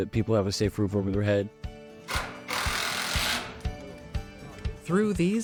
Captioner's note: drill clutch clicking